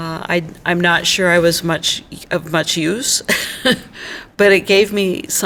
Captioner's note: laughs ruefully